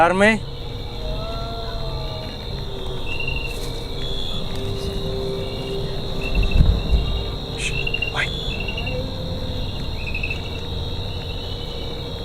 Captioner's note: groan